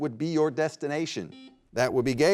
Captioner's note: buzzer beeps